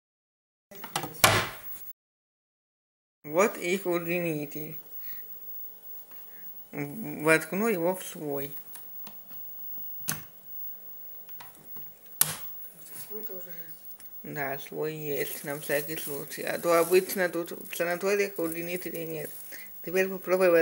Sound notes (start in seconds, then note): 0.9 the sound of closing the bedside tables; 11.1 extension cable sound